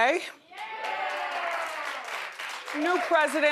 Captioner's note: audience cheers